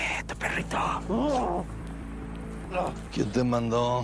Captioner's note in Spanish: Quejidos